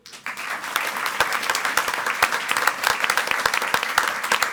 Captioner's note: audience applauds